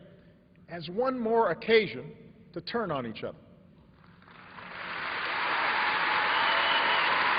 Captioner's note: applause